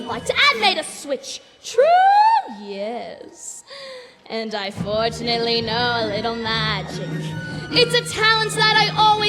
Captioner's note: gasps